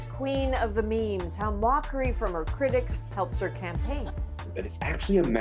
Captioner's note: laughter